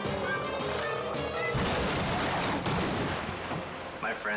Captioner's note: snowmobile crashing